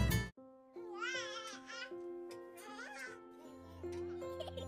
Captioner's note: baby crying; child laughing